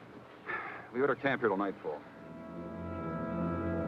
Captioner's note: sighs; deep somber music